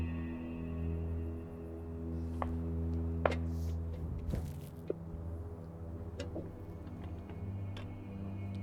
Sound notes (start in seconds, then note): 2.7 boots clunk against tank